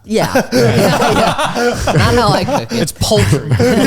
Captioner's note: all laughing